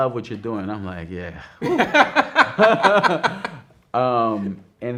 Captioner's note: both laughing